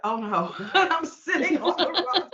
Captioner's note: laughing